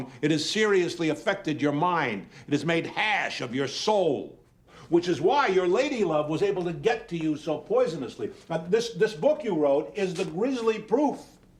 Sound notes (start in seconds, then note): none